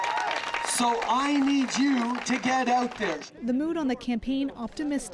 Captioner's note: applause